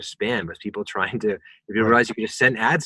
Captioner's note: murmurs